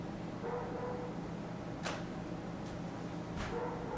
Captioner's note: dog barking